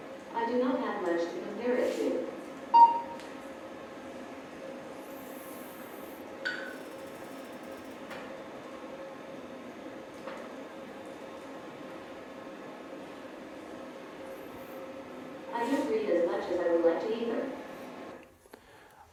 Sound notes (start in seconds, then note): 2.7 beeps